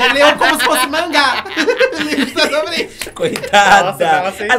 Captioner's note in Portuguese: risos